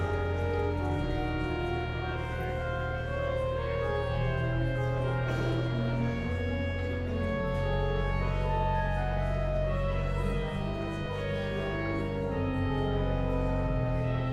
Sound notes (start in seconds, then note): 8.0 elegant music continues; 8.0 guests chattering